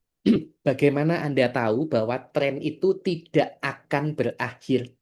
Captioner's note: berdehem